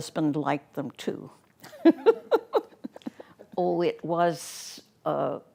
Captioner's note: laughing